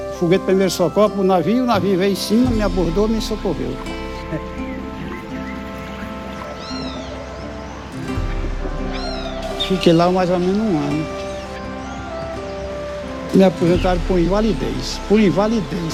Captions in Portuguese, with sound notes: Aí soltou o foguete pro navio. Ele veio em cima e me socorreu. [Pássaros cantando] Fiquei lá mais ou menos um ano. Me aposentaram por invalidez, por invalidez.